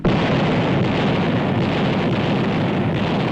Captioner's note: cannon fire